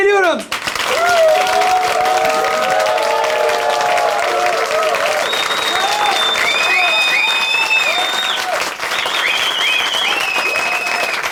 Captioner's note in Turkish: alkış kıyamet bravolar ıslıklar vuhular